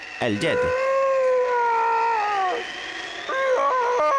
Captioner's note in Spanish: Se escucha al Yeti gritando